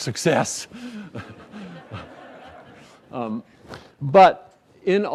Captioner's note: laughter